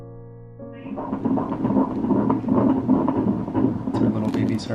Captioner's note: amplified heartbeat